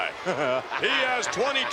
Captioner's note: Bobby laughing